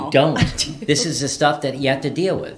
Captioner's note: laughs